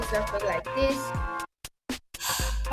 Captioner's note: sighs